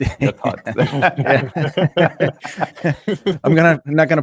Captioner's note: panelists laughing